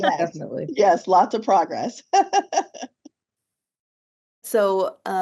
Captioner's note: laughs; laughs